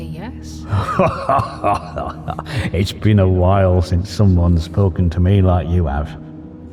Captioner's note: hearty chuckle